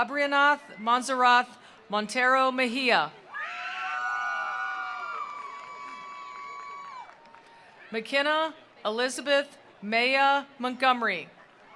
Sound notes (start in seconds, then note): 3.2 attendees cheering; 4.8 attendees applauding